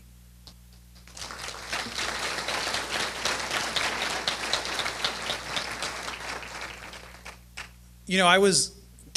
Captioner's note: applause